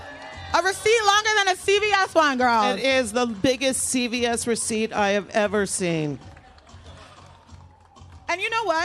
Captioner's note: applause